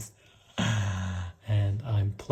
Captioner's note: baker laughs